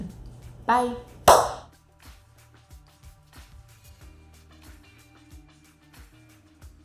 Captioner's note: claps hands